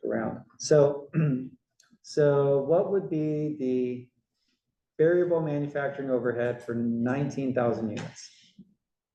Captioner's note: cough